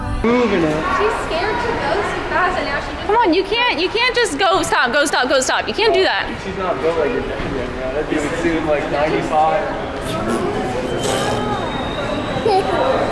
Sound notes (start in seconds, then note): 10.0 making raspberry noises; 12.3 laughs